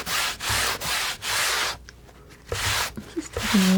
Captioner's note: scratching